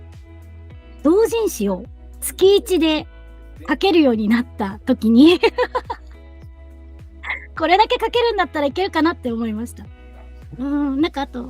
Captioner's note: laughs